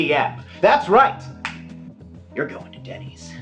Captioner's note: snap